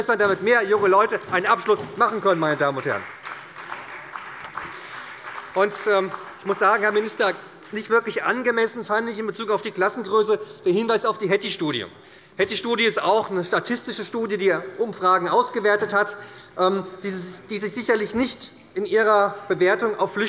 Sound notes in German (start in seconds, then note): 3.3 Beifall bei der SPD